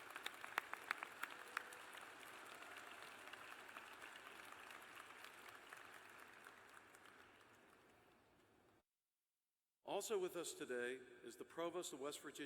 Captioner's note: applause